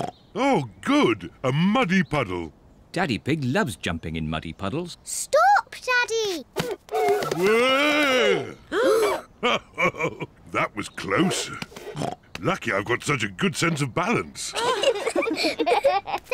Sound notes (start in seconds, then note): 0.1 snorts; 8.2 all gasp; 9.4 chuckles; 11.2 snorts; 14.5 all giggle